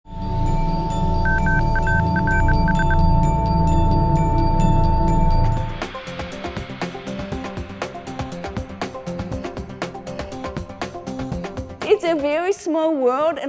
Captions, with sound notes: (gentle electronic music) (beeping) (upbeat electronic music) It's a very small world,